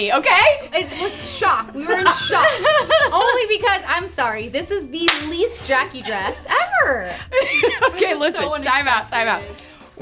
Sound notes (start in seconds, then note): 1.7 laughs; 5.9 laughs